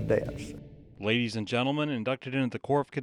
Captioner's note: voiceover